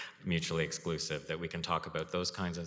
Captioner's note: chuckles